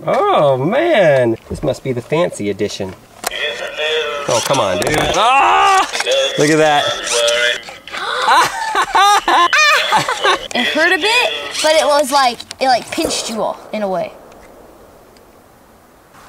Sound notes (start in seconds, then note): 7.9 laughs; 8.0 gasps; 12.9 small explosions echoing